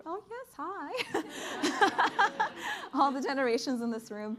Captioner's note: laughter